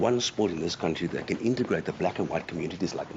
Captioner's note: none